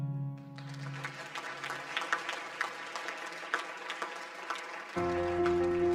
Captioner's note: audience applause; upbeat music